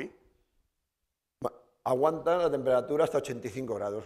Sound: speaking spanish

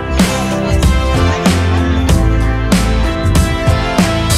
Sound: people chattering

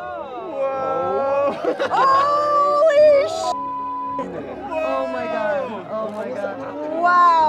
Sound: yells

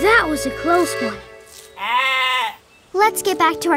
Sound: bleating

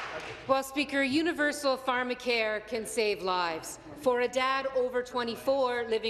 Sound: applause

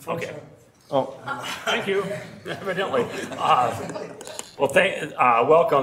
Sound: laughing

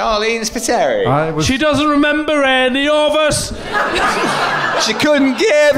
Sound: laughing

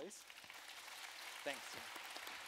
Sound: applause

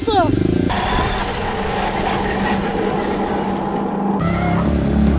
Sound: engine whining

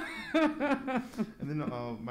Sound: laughs

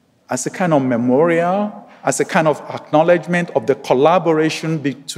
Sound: none

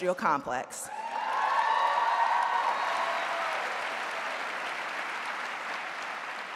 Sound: audience cheering and applauding

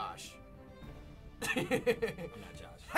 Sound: chuckles

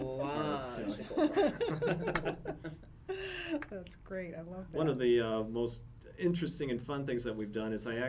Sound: laughs

